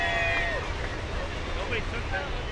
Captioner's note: cheering